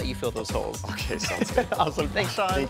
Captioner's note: laughing